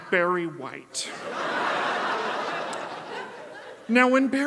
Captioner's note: audience laughs